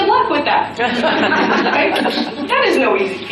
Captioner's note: audience laughter